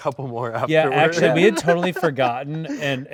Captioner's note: host laughs